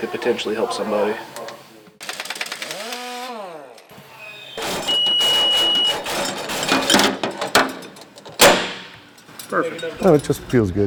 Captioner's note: repair noise